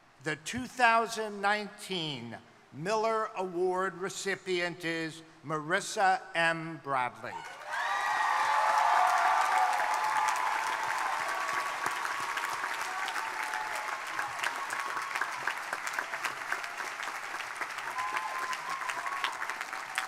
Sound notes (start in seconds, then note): 7.8 crowd applauding; 7.8 crowd cheering